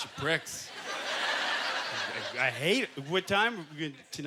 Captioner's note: audience laughter